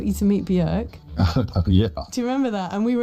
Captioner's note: chuckles